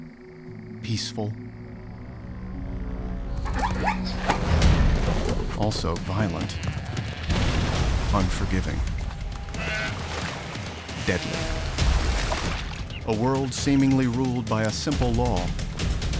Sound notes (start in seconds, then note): 3.4 zebra yelping; 9.2 deer bleating